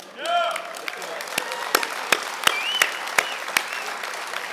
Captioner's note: audience clapping